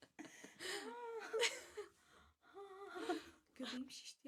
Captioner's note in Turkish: kahkaha